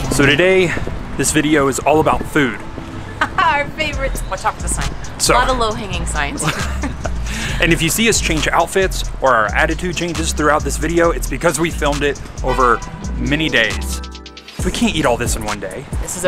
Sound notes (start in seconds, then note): 3.2 laughs; 6.2 both laugh